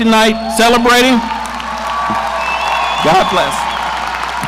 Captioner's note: audience cheering